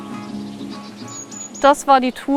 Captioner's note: bird calls